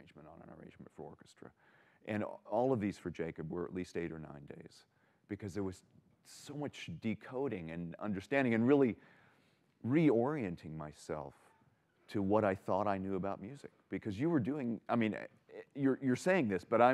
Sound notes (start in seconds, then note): none